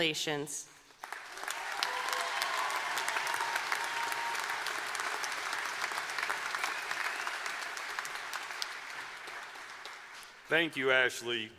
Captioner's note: applause